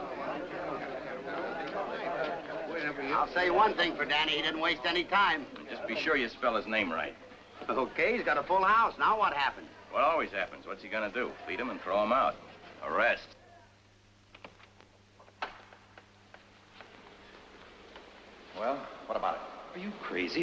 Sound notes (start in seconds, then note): 0.0 crowd chattering; 15.2 door opens